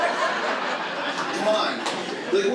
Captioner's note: audience laughs